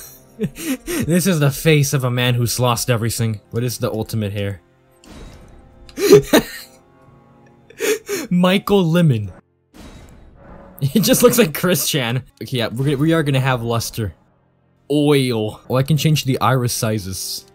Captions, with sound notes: This is the face of a man whose lost everything. What is the ultimate hair? [Chuckle] Michael Lemon. He just looks like Chris-Chan! Okay, yeah, we are gonna have luster. Oil. Oh, I can change the iris sizes.